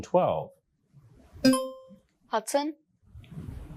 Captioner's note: buzzer rings